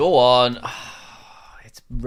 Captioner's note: sighs